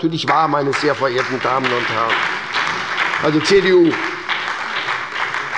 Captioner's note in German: Beifall bei der SPD